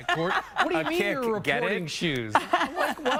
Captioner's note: laughter